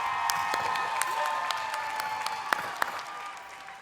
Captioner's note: cheers and applause